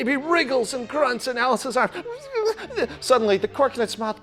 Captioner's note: imitates muffled babbling